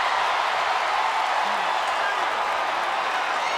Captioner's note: crowd cheers